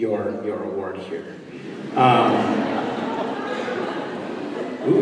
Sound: laughter

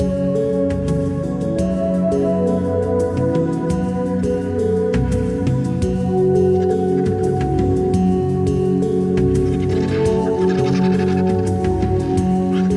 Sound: sounds of nature

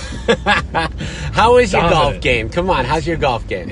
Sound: laughs

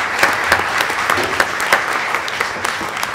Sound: applause

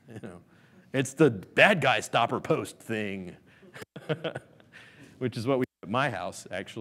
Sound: laughs

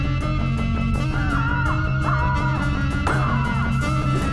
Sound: more yelling

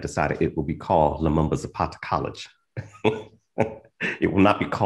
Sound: laughs

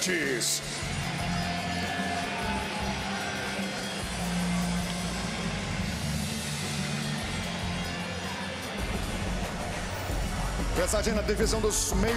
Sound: speaking foreign language

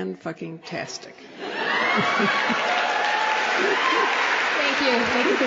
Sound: applause

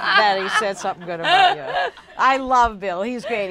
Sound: laughing

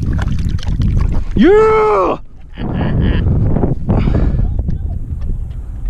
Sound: water splashing; laughs

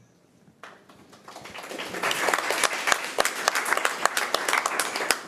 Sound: committee applauding

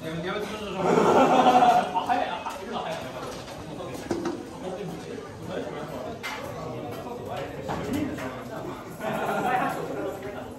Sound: laughs

